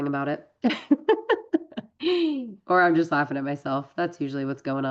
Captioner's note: laughs